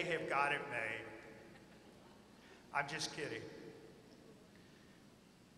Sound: laughter

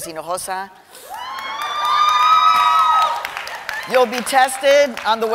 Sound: cheering and applause

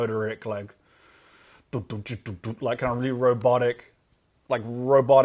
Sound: imitates drums

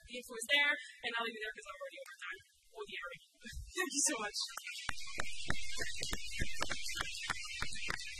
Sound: applause

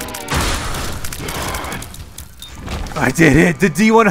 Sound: crashing

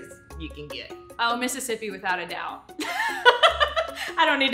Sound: laughs

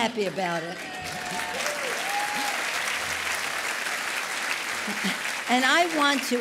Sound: applause

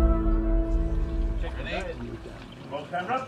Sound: indistinct chatter

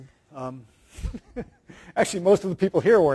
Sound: laughs

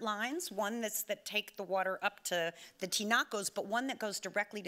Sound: speaking Spanish

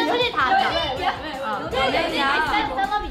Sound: speaks in Korean

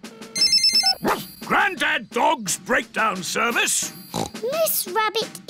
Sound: line rings; barks; snorts

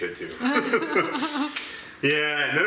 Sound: laughing

